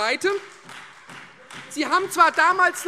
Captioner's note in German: Beifall Freie Demokraten